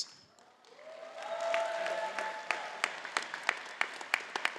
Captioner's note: audience applauding